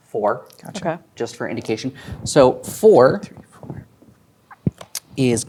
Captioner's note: quietly